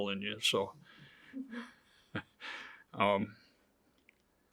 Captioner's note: chuckles